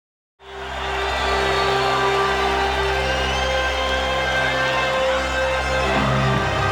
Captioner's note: crowd cheering; dramatic orchestral music